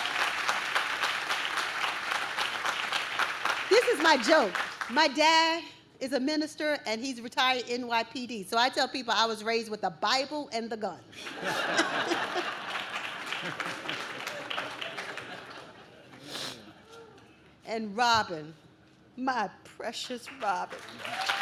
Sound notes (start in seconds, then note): 11.2 audience laughs; 11.2 laughs